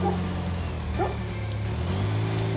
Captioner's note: bark!